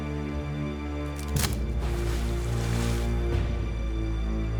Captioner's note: twig breaks